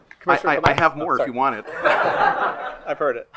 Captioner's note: attendees laughing; attendees laughing